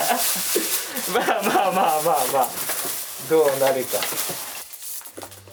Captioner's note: laughs